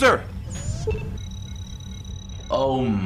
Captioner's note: beeps